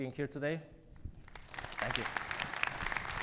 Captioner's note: audience applauding